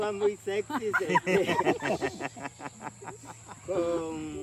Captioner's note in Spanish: risas